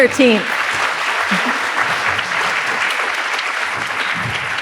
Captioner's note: audience applauds